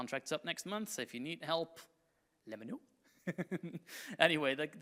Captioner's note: chuckles